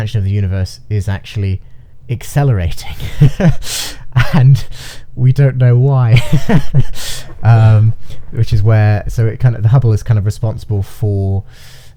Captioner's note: laughing